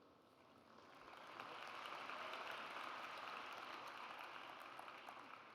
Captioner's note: audience applauds